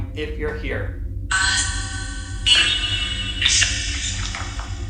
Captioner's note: chanting